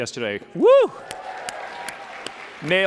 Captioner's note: applause